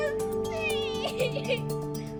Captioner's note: sobs